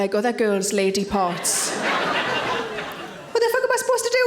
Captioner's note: audience laughing